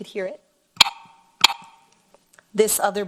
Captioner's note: game clicks